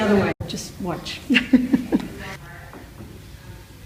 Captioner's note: laughter